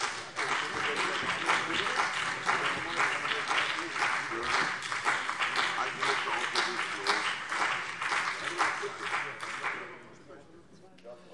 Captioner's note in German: Beifall CDU und BÜNDNIS 90/DIE GRÜNEN